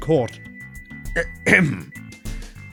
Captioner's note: clears throat